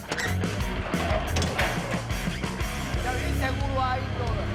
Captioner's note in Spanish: Sonido al cerrar la puerta